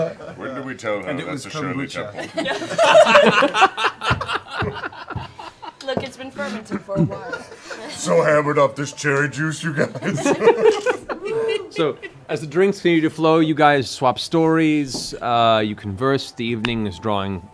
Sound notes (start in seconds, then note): 2.1 laughter; 11.6 laughs